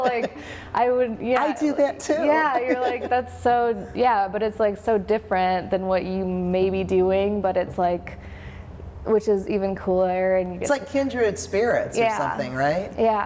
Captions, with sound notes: (woman laughs) - Like, I would yeah. - (laughs) I do that too. - Yeah, you're like that's so, yeah. But it's like, so different than what you may be doing, which is even cooler and you get. - It's like kindred spirits or something, right?